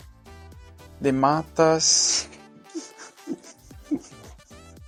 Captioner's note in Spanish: Risas